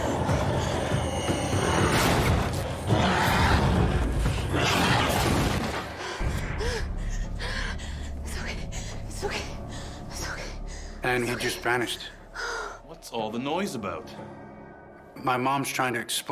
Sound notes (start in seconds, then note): 0.2 suspenseful; 3.3 growling & shrieking; 5.9 gasping